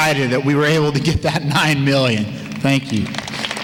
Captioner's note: applause